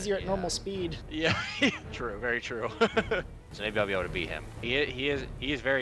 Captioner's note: laughs